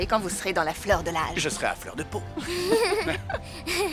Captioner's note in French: rires